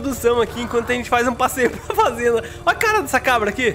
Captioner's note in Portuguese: risos